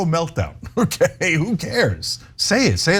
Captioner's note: laugh